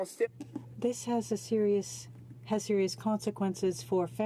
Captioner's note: speaking French